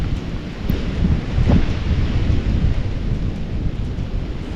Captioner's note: wind & rain